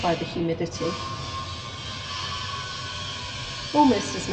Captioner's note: loud buzz saw